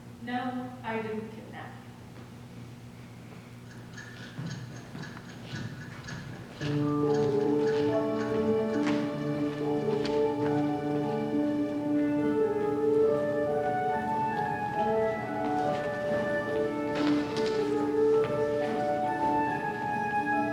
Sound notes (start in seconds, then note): 3.6 clock ticking; 5.6 whimsical music